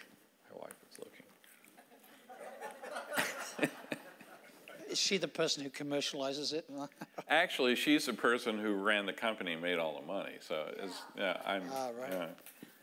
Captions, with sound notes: My wife is looking. (audience laughing) - Is she the person who commercializes it? - Actually, she's the person who ran the company and made all the money. - Alright.